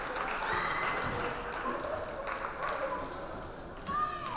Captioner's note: cheering